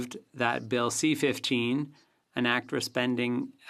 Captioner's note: speaking French